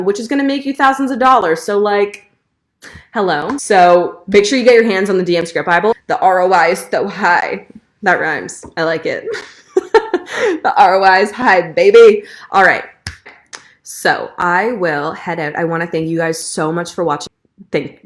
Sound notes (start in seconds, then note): 9.3 chuckling; 13.0 claps